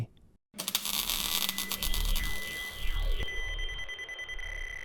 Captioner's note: time machine whirs